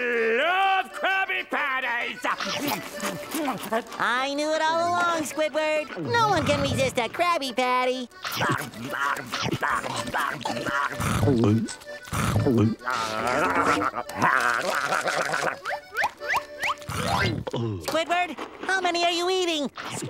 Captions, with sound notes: I love Krabby Patties! [scarfing] I knew it all along Squidward. No one can resist a Krabby Patty. [scarfing] Squidward, how many are you eating?